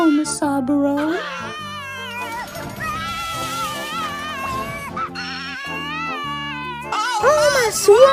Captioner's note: baby continues crying